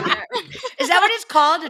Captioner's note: laughing